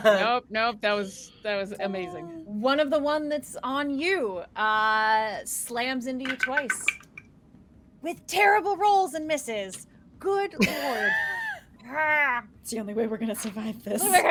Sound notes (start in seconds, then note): 0.0 all laughing; 6.2 dice rattling; 10.6 laughing